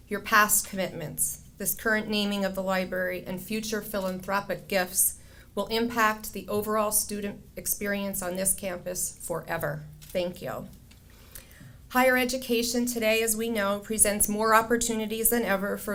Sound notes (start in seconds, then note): none